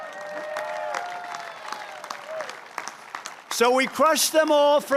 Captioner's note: applause